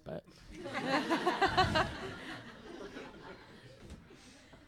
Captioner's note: audience laughter